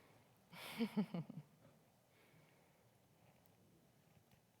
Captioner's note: chuckles